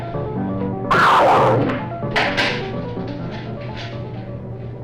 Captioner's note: air whooshes